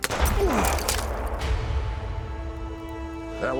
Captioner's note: gunshot, bottle shatters; tense music